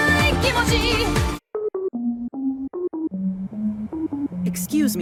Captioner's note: Nokia ringtone